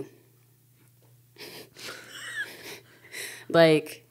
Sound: speakers chuckling

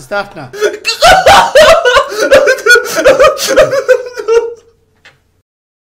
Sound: loud sobbing

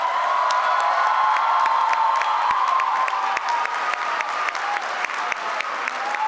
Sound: applause

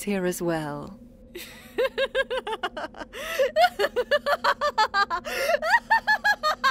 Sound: discord laughs; discord laughs hysterically

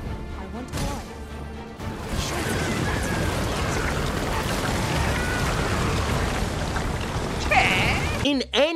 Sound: monster noises

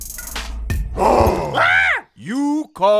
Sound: Faang growling; monkey yelling

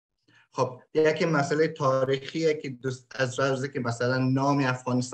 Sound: speaks in Dari

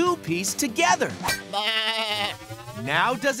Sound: baaing

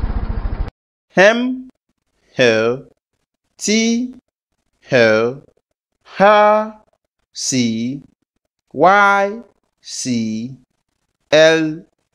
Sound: motor Cycle Sound

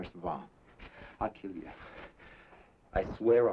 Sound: none

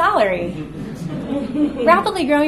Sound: audience laughs

